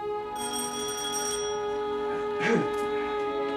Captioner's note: doorbell